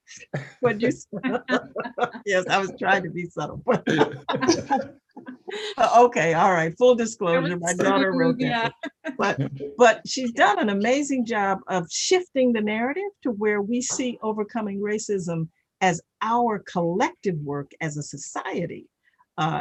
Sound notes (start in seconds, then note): 0.2 chuckling